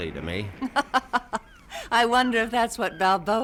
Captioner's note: laughs